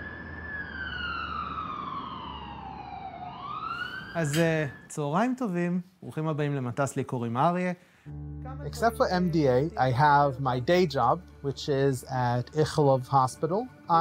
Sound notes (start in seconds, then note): 4.6 speaks foreign language; 12.1 foreign language